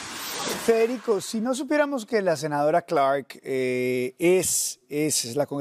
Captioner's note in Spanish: HABLA EN INGLéS